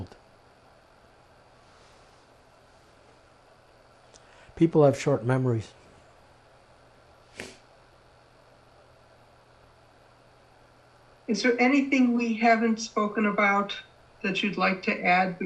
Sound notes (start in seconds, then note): 7.3 sniffing